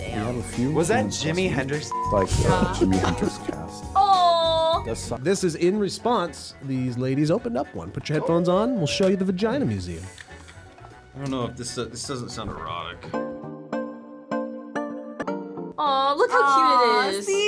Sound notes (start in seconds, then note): 1.7 beep